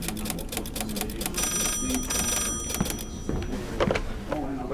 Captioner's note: people chatter indistinctly; typewriter clatters; phone rings